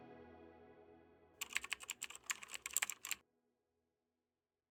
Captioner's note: typing sound